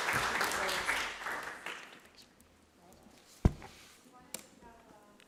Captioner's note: people chattering